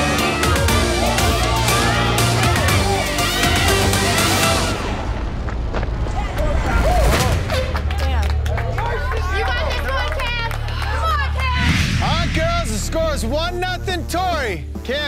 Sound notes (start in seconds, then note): 0.0 on-lookers yelling